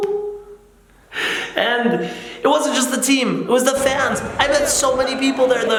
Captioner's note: laughs